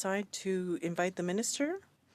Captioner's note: speaking in French